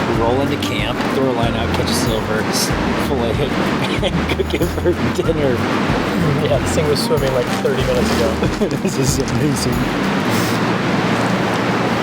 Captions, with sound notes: We're all in the camp, throw a line out, catch a silver, just pull it in. (laughing) Go get Bertie dinner. Yeah, this thing was swimming like 30 minutes ago. This is amazing.